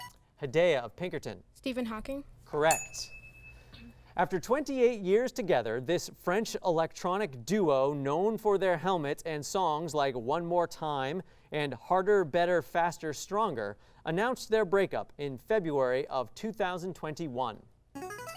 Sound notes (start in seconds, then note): 2.6 ding; 17.9 signaling device tone